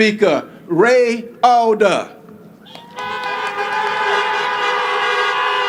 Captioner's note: applause